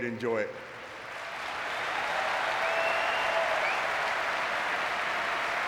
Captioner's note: audience cheering and clapping